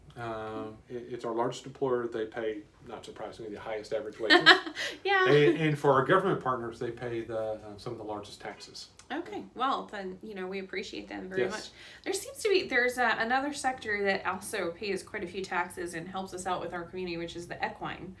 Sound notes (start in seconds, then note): 4.2 laughs